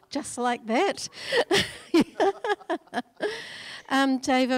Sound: laughing

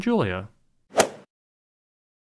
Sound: swoosh

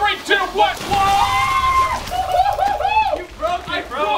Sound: both squealing

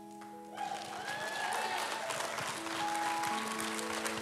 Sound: audience applauds and cheers; soft piano music

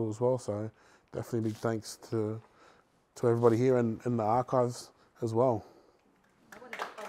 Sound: applause

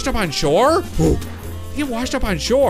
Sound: grunts

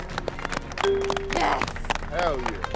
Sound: bell dings

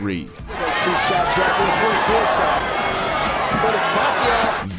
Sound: crowd cheering

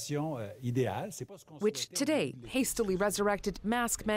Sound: speaking French

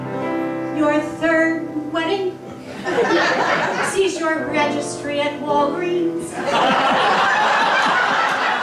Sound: laughter

